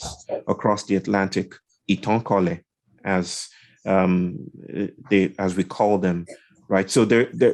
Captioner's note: indistinct conversation